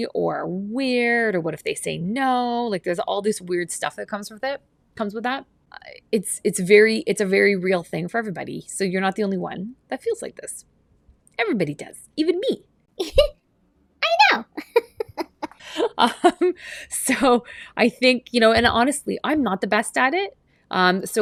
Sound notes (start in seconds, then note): 14.2 laughs